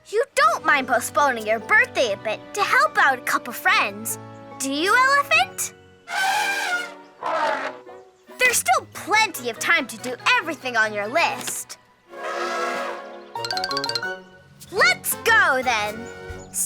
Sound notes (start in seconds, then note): 6.0 elephant trumpets; 12.1 elephant trumpets; 12.3 playful music